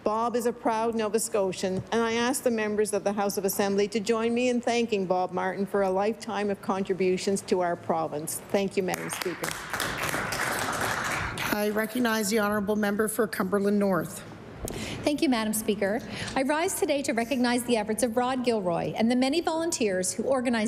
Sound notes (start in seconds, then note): 12.4 applause